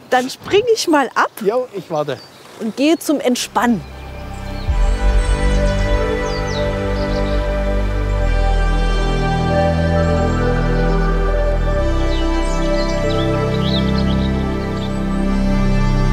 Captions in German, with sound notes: Dann springe ich mal ab ... - Ich warte. Und gehe zum Entspannen. *harmonische Musik* *Vögel zwitschern.*